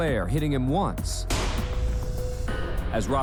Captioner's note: gunshot